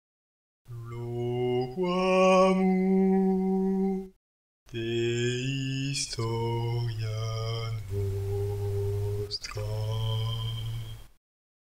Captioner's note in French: voix d’ambiance